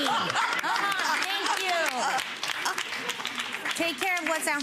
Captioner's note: audience applauds